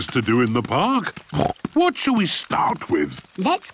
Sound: snorts

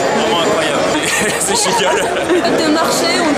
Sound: laughing

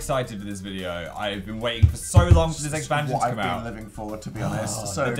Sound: bangs table

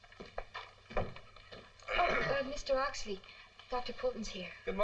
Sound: clears Throat

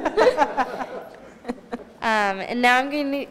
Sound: laughter

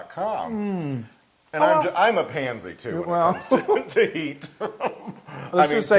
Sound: laugh

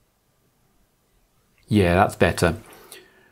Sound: blank Audio

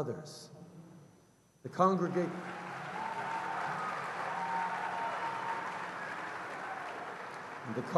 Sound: cheers & applause

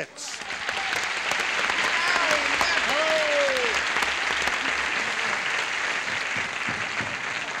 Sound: applause

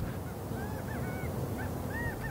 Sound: quail chirping

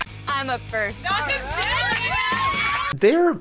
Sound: women cheering

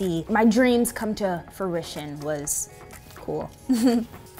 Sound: laughs

